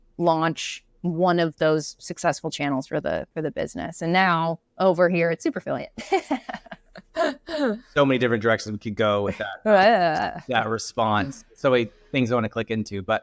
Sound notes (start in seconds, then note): 6.0 laughs